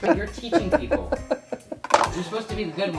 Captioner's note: laughing